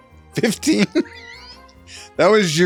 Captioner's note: laughs